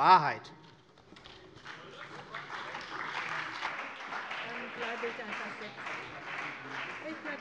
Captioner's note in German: Beifall bei der CDU und dem BÜNDNIS 90/DIE GRÜNEN